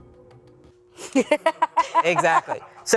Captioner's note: laughs